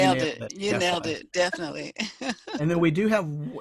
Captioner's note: laughs